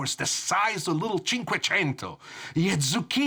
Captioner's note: speak a foreign language